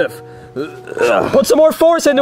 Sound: Bowser grunting

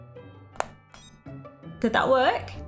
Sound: electronic beep

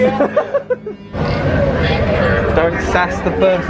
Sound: laughs

